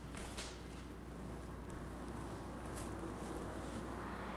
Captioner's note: car engines revving